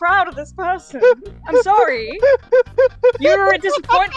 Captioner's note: laughter